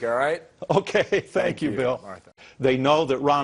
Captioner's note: chuckles